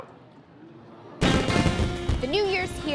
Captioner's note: fireworks explode